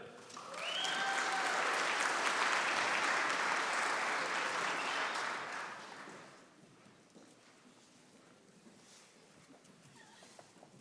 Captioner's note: applause